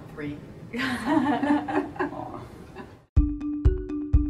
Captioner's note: laughter; instrumental music